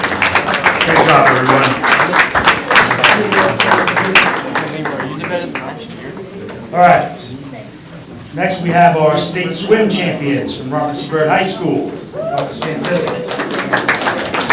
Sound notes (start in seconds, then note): 0.1 crowd talking indistinctly; 4.1 crowd talking indistinctly